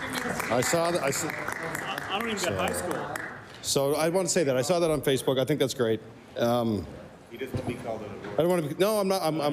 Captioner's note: applause